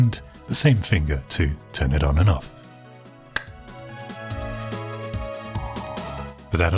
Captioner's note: click